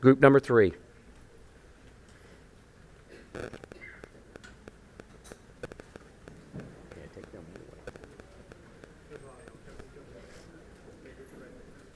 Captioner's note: group chatter